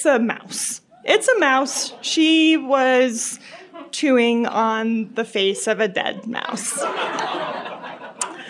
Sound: crowd reacting in surprise; laughter

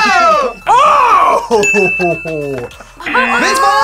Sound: laughs

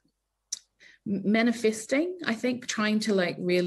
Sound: smacks lips

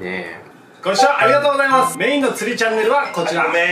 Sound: ringtone

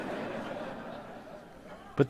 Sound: laughter

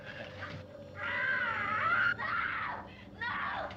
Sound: screams

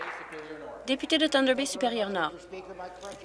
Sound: applause

